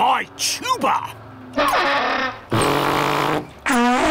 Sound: awful bellowing

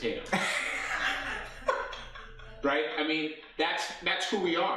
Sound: laughing

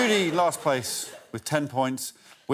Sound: laughter

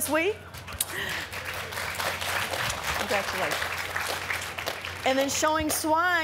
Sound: applause

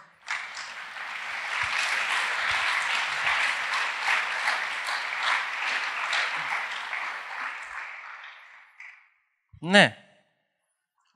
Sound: applause

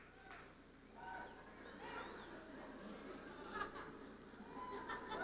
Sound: cheers and laughter

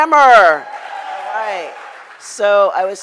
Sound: crowd applauds

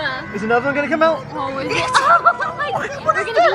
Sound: both laugh

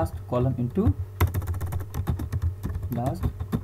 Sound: typing Sound

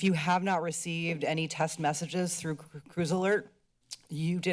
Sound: mouth clicks

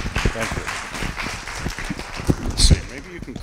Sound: applause

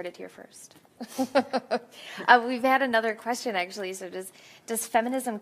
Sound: laughs

